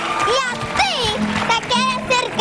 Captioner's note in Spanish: aplausos